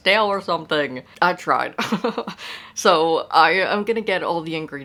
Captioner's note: laughing